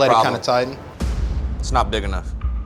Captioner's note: dramatic boom